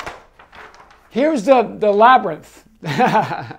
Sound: laughs

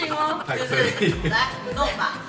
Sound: Xin-Ya just couldn't help laughing!

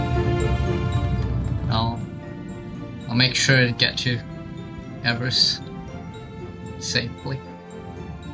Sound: on the radio

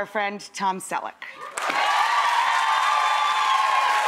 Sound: cheering

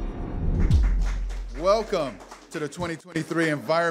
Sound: audience applause

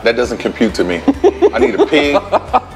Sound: laughs

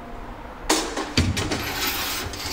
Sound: metallic rumble

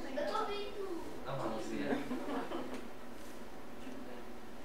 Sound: laughs

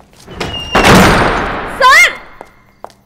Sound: door closing

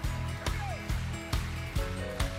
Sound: rhythmic applause

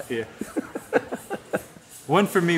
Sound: laughs

